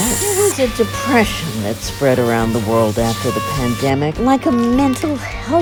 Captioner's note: podcast Voice